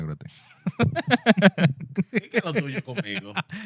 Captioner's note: laughing